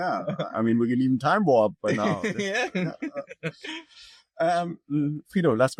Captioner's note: laughs